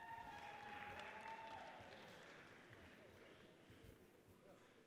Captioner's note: audience cheers and applauds